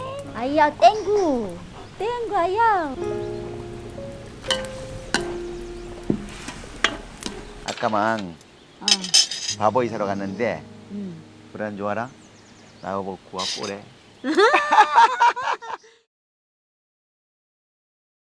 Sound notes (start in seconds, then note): 14.2 both laughing